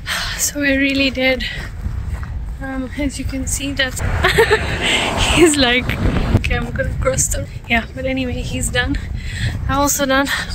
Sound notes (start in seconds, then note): 4.0 laughs